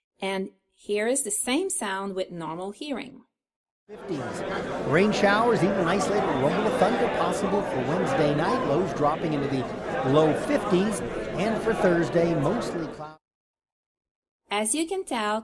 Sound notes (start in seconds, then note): 4.9 noisy weather forecast